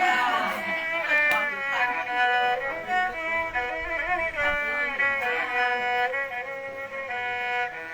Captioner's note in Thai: ปรบมือ